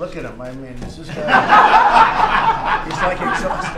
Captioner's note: laughter